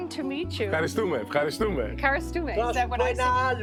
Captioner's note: speaking in Greek